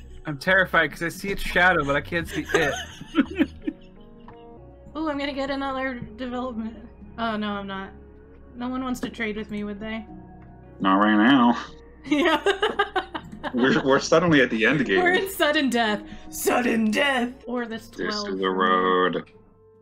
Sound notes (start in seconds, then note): 0.0 laughs; 1.5 laughter; 12.1 laughs; 15.9 Smash Bros. voice